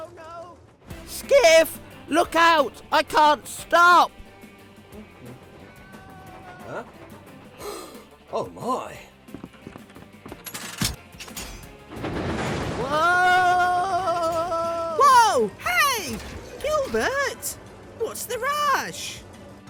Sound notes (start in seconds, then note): 7.5 gasps